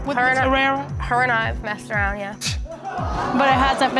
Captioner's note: scoffs